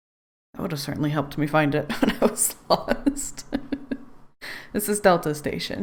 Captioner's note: laughs